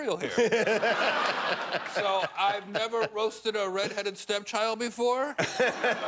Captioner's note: laughter